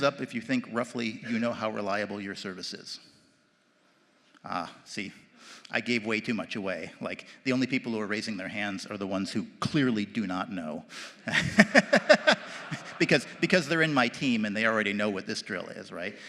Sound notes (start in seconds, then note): 11.2 laughs